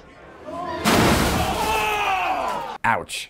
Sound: crash

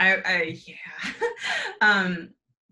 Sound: chuckles

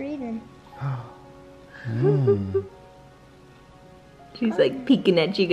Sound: gasps

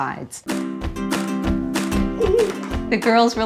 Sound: happy music; child laughs

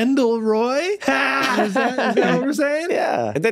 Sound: Glenn laughs

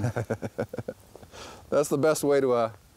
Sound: laughs

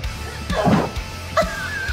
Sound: laughs; grunt

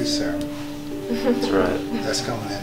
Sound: laughs

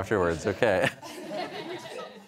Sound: laughter

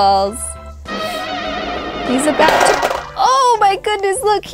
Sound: popping noise

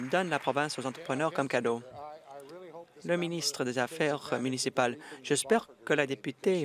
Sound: applause

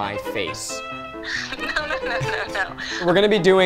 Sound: over Phone

